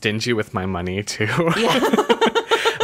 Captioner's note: laughs